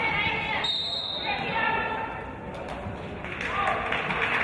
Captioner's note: referee's whistle